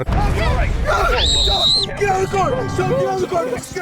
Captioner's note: screams